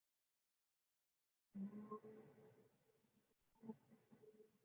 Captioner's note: humming